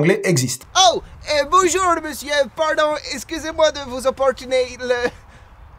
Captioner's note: british Accent; short sigh